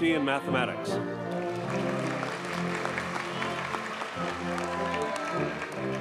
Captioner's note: audience cheers and applauds